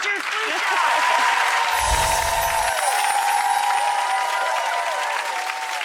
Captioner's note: audience cheering